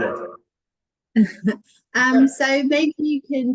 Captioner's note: chuckles